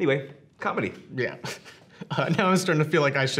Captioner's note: laughs